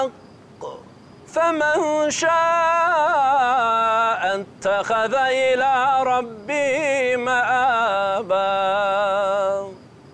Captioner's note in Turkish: Arapça kuran okunuyor